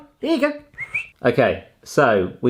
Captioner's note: whistles